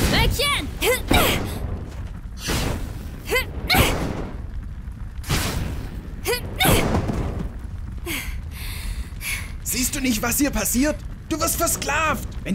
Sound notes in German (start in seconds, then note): 1.1 Heavy breathing; 2.4 Damagegeräusche und so